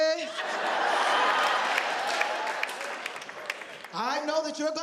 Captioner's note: audience laughing